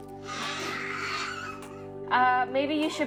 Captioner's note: baby fussing